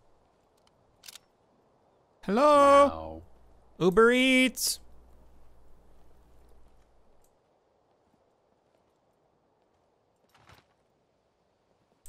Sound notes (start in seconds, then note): none